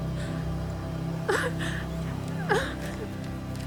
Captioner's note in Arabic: ينتحب